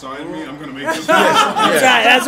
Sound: laugh

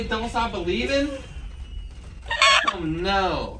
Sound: laughing

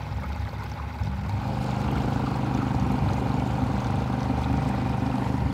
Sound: boat engine purring

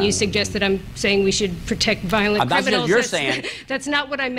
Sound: laughter

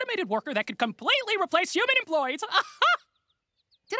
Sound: chuckles

